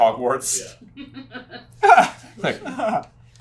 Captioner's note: team chuckles